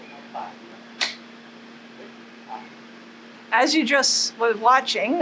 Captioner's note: clap